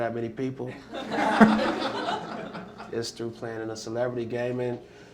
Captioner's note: laughter